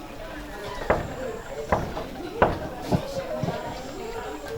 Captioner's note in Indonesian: mengetuk pintu